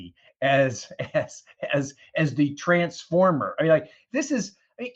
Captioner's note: laughing